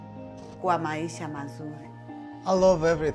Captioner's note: speaks in Swahili